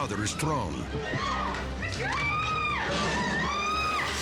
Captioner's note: staff member screaming; dramatic music continues